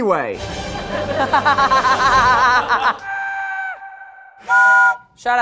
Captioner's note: exciting music; laughs; whistle blows